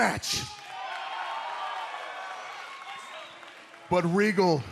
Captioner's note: cheers and applause